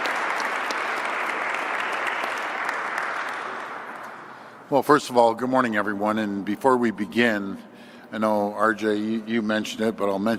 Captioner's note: applause